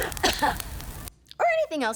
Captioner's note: maniacal laugh; coughs